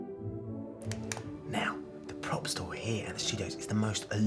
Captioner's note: whispering